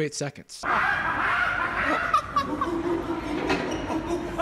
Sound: monkey noises

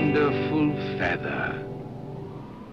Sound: wind whistles

